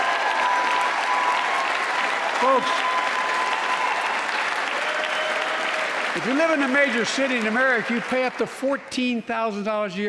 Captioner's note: applause